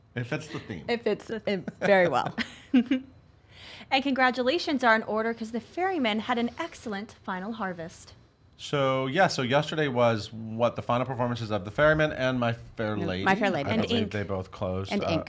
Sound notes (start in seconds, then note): 0.0 laughs; 1.5 both laughing